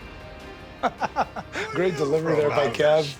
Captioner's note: Sami laughs